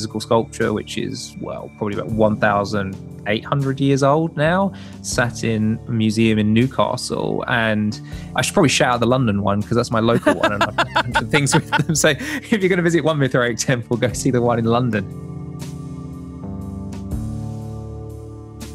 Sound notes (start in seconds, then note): 10.1 laughs; 10.1 chuckles